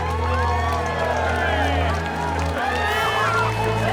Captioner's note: crowd cheering